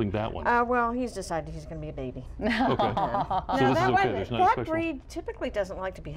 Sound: laughter

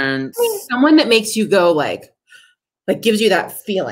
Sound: gasps

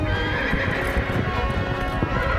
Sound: echoed horse whinny

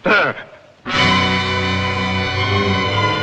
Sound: gasps

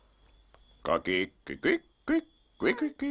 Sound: clucks

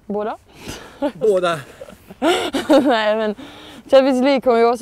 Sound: laughing

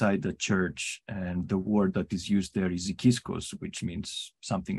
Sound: speaks Greek

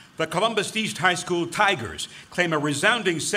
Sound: none

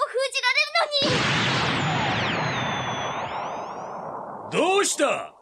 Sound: SFX: sound of magic

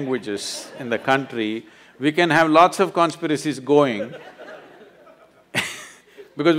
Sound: laughs

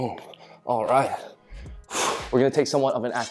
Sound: exhales

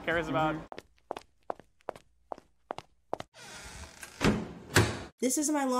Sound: high heel walking sound effect, door closing sound effect

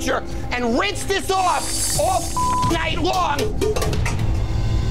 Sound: beep

